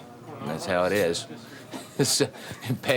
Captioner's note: chuckles